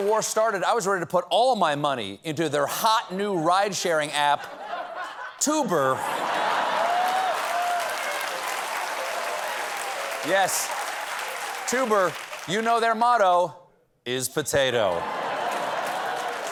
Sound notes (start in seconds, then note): 0.0 applause; 4.3 laughter; 6.3 applause